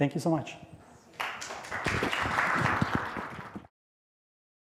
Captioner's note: applause